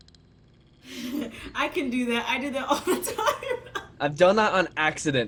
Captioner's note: chuckles